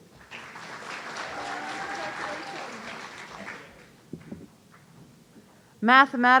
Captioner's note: audience applauding